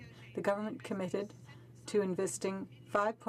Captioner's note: speaking in french